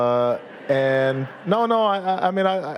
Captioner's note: audience laughing